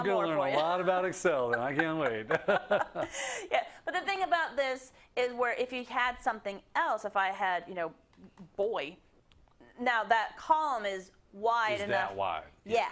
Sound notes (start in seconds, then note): 1.3 laugh